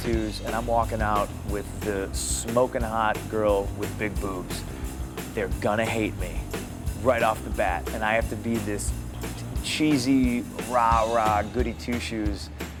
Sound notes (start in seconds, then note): none